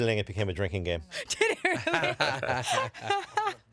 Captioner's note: laughing